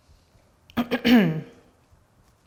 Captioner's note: clears throat